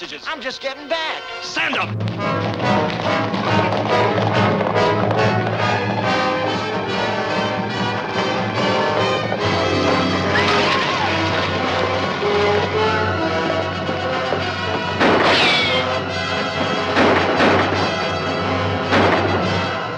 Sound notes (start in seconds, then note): 2.6 dramatic music; 14.9 guns firing